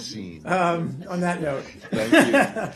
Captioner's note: laughter